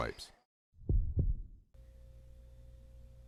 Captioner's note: heartbeat